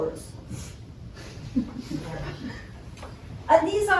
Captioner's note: scattered laughter